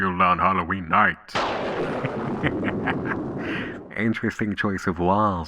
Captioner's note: thunderclap, March Hare laughter